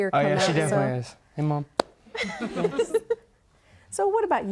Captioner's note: panelists giggling